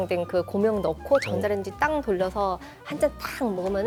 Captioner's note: impressed